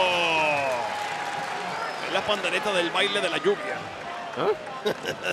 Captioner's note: laugh